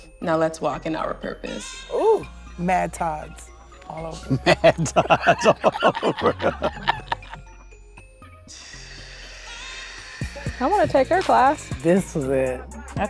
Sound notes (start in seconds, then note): 4.0 laughs; 8.4 exhales